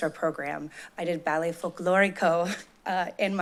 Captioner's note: chuckles